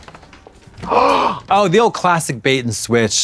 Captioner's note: Trixie gasps